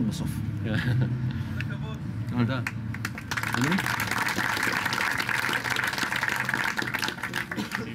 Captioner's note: applause